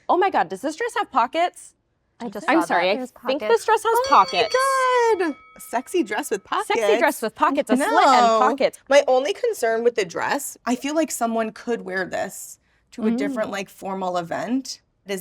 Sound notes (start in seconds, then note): 3.9 bell ringing